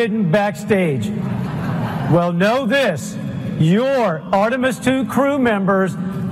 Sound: laughter

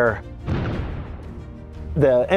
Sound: gun firing

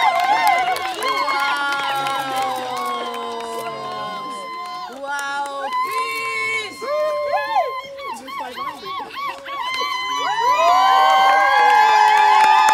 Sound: cheering and applause

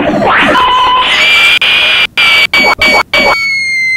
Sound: distorted Scream

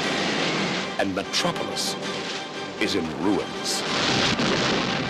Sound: wind howling

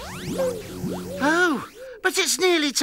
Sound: poof

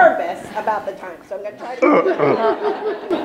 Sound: audience laughing

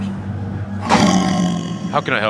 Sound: growling

